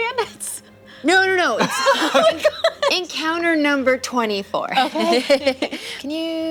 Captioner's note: laughs